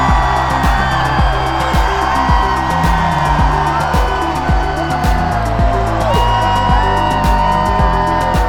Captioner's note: crowd cheers